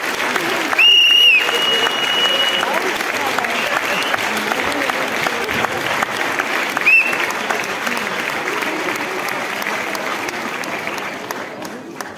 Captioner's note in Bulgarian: аплодисменти